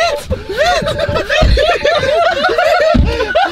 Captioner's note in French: rires